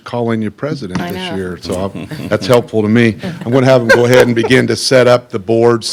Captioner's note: laughter